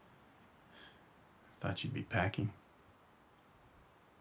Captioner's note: scoffs